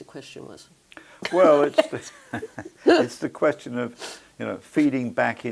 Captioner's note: laugh